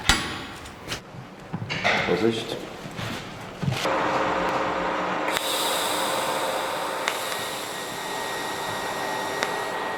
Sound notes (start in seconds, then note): 3.9 machine whirring; 5.2 hissing